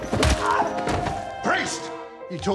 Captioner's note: yelps